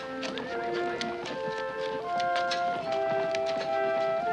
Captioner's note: horses neighing, walking